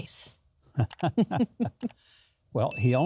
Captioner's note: laughter